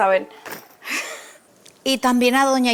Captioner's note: laughs